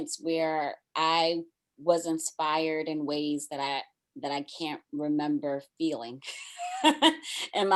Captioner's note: laughs